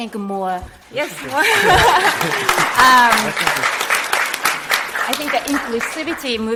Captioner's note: audience applauding